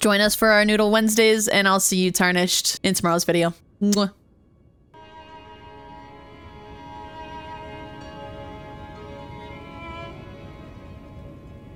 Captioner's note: kiss